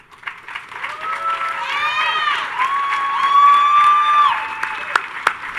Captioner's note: audience cheers and applauds